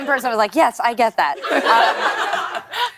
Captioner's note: laughter